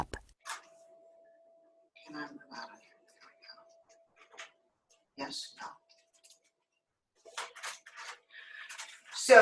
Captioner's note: silence